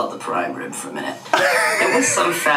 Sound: laughs

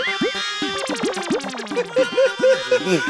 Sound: laughs

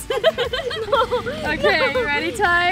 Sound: laughing

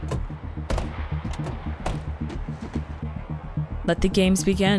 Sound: doors close; intense music

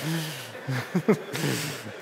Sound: laughter

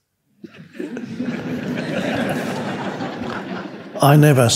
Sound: audience laughing

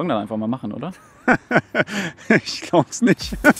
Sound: laughing

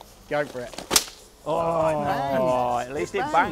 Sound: cracker bangs

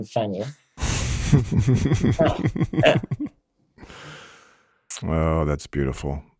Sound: laughs

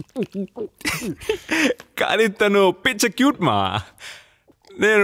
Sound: chuckles

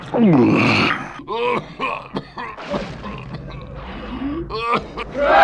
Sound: coughing

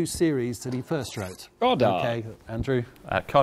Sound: buzzer buzzes

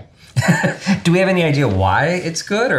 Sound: laughing

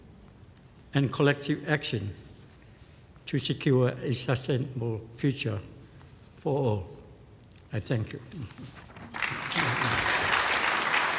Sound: applause

